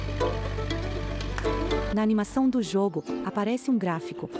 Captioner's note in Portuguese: Pássaros